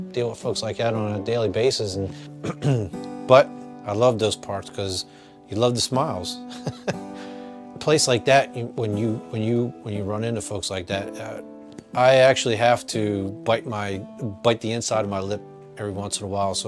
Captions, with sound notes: deal with folks like that on a daily basis. But, I love those parts, 'cause you love the smiles. (laughs) Place like that when you, when you run into folks like that, I actually have to bite my, bite the inside of my lip every once in awhile,